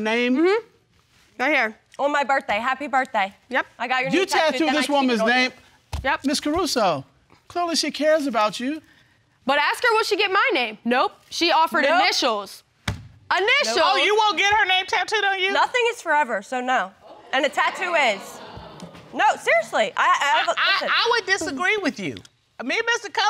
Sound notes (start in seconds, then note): 17.0 audience exclaiming; 20.7 stuttering